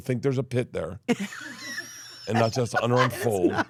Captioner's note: laughs